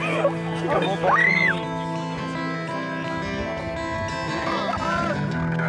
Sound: camper screaming

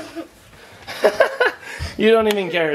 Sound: laughing

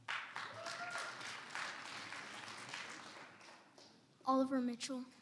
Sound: audience applauds

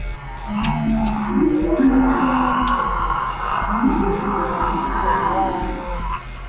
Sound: zombies moan

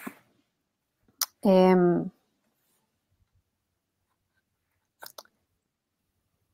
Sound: speaks portuguese

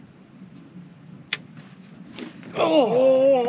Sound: click; rod whipping

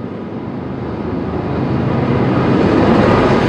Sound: passing train intensifies

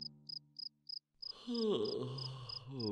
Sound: yawning

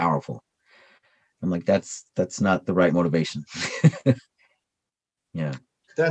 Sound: chuckles

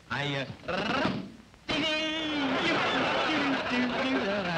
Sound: audience laughing

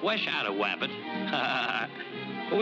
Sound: laughs nervously

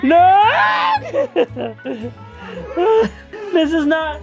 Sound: laughing

